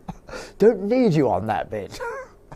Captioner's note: laughs